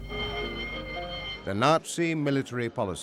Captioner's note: alarm rings